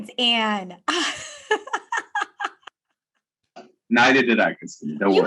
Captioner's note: laughing